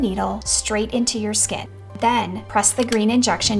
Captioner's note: pen clicking